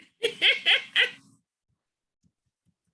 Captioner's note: laughs